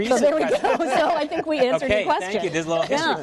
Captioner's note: laughter